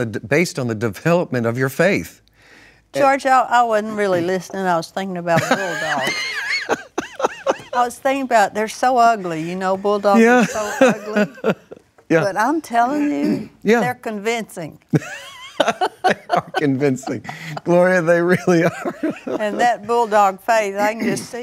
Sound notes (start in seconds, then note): 5.4 laughs; 14.9 laughs